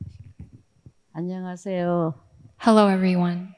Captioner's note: speaking in foreign language